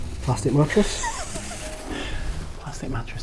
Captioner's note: laughing